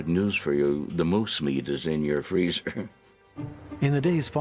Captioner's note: chuckles